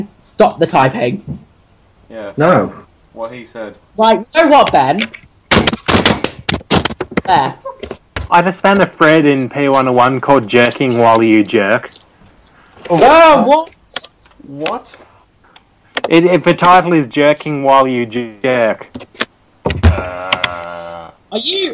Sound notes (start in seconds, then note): 5.5 banging